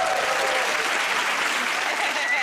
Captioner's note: cheers and applause